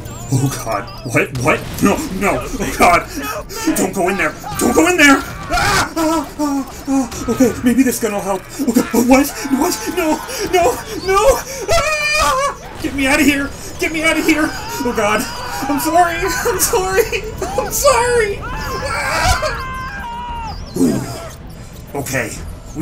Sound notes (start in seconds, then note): 5.9 panicked breaths; 18.4 whimper; 20.0 deep Breath